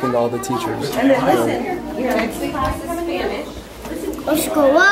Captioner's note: background chatter